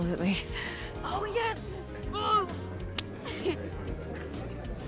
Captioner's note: high-five clap